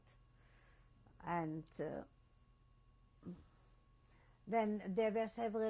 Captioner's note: pauses for 3 seconds